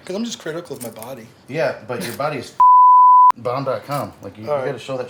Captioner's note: beep